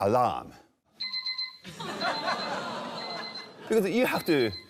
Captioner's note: rings